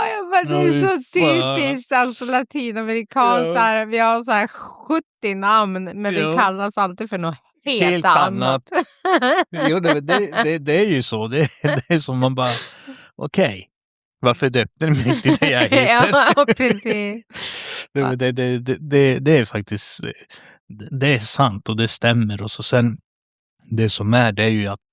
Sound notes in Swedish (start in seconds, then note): 7.8 skratt; 14.8 skratt